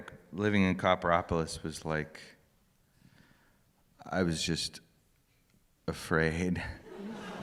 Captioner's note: laughter